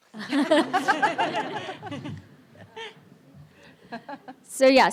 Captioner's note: audience and panelists laughing